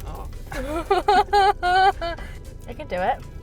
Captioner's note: laughing